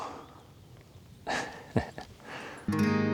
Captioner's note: laughs